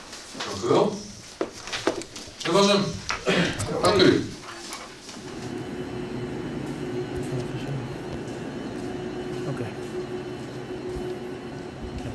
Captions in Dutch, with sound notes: Dankuwel. Dat was 'm. [GEKUCH] Dank u. [MACHINE GELUIDEN] Oké.